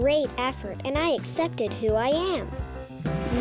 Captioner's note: whooshing sound